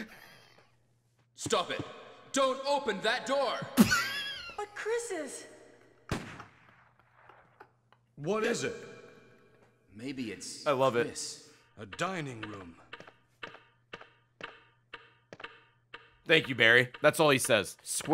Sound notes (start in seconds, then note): 6.7 laughs